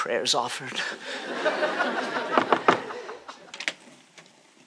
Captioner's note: knocks